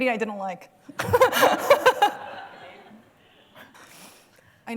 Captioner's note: laughter